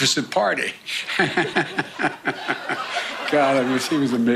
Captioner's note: laughs